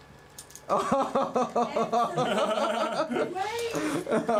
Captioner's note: laughing